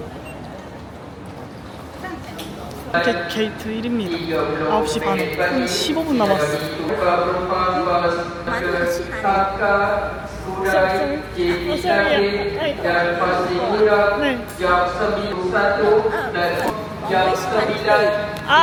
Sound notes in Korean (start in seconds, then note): 6.9 알아들을 수 없는 말레어 방송